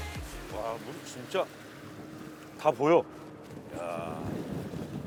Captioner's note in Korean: 감탄